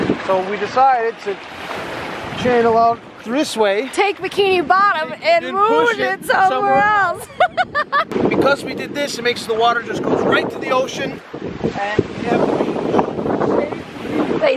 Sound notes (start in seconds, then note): 7.0 laughing